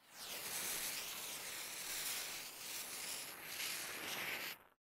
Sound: lit fuse sound effect

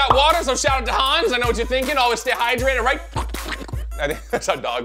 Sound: slurps

